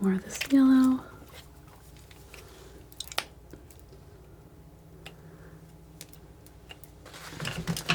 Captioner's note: plastic crinkling